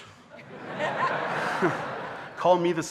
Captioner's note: audience laughing